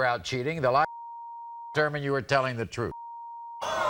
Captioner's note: beep